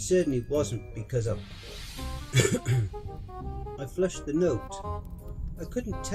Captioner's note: cough